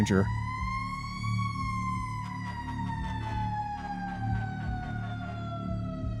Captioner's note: sirens